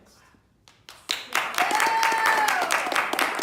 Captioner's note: cheering